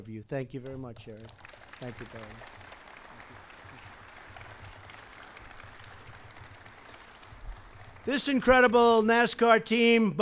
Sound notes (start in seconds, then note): 3.8 applause